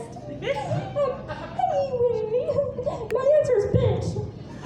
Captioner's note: giggles